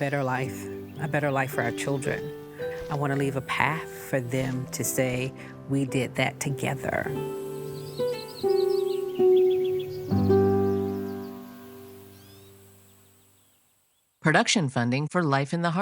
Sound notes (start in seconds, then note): 7.3 birds singing; 7.3 peaceful music continues